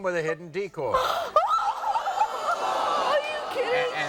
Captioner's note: sobbing